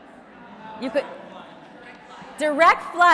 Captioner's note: crowd murmuring